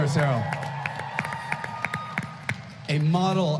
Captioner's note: applause